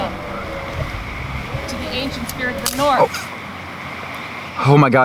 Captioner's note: branch cracking